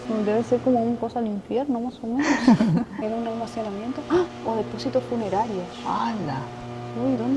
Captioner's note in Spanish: risas